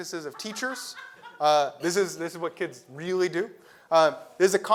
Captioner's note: laugh